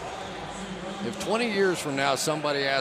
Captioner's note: pa announcement